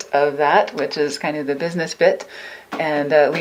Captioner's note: none